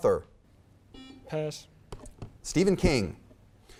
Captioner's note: buzzer beeps